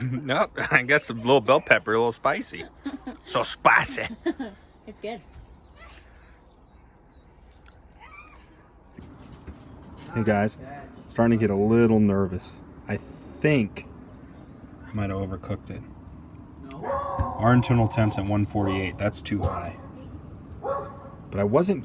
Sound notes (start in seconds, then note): 17.0 groans; 20.6 dog barks